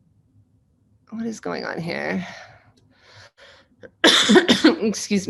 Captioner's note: coughing